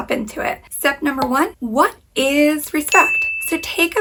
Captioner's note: bell chimes